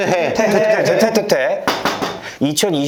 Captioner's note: knocking on wood/steel